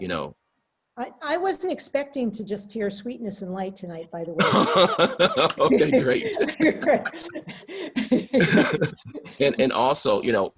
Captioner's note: group laughter